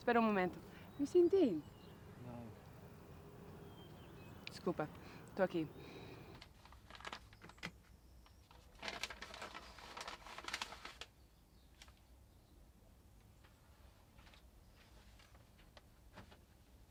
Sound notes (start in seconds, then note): 4.4 speaks Brazilian Portuguese